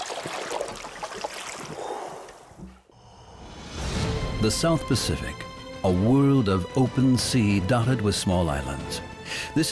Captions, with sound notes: [diver exhales] The South Pacific: a world of open sea dotted with small islands.